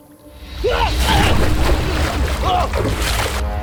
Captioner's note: sheriff yells